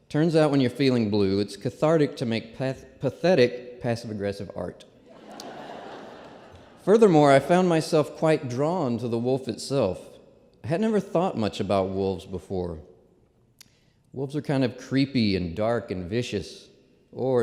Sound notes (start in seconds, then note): 5.0 laughter